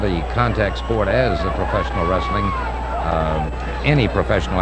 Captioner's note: audience cheering